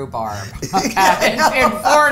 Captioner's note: pair laughs